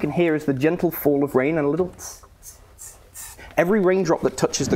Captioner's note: tss tss tss tss